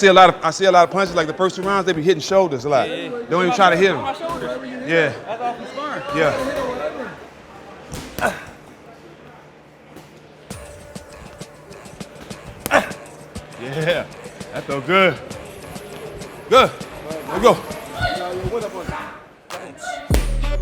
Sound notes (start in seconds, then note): 10.5 rhythmic music; 10.5 gloves banging; 14.0 exclaiming; 15.5 rhythmic music continues